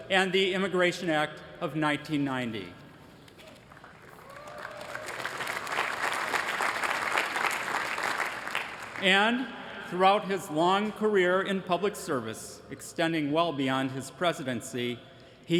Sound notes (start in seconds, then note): 3.4 applause